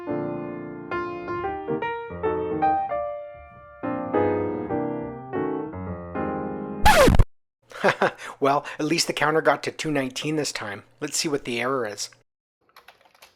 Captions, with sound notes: [bright piano music] [record scratch] [laughs] Well at least the counter got to 219 this time. Let’s see what this error is.